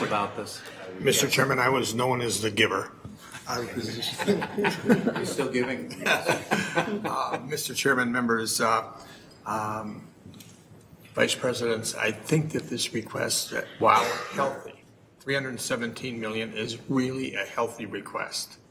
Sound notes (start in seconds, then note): 3.4 board members laughing